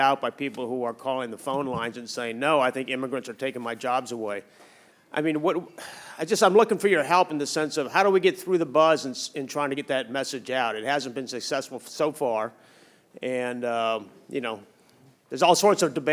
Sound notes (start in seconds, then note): 5.9 sighs